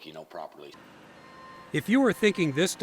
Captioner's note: machinery whirring